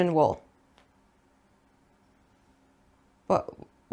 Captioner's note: silence but with questions